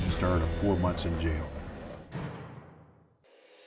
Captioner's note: jail door closes